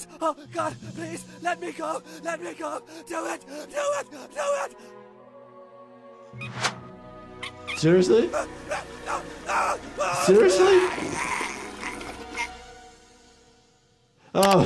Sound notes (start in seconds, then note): 7.4 plumbing squeaks; 10.0 Clyde's mom yells; 10.8 organs rumbling